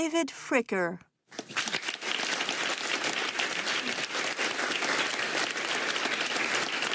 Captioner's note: applause